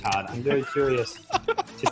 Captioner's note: laughing